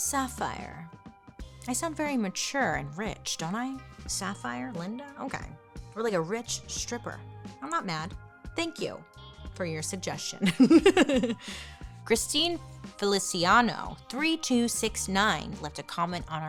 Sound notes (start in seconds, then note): 0.7 gentle music continues; 10.4 laughs